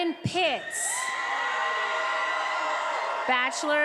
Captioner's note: attendees applauding and cheering